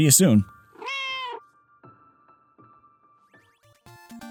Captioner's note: meow